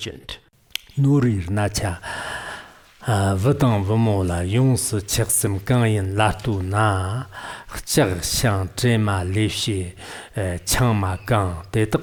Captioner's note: giving oral transmission in Tibetan